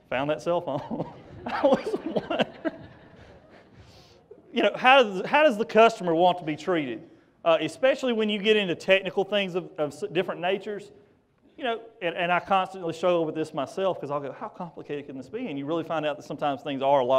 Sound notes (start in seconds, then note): 0.7 laughter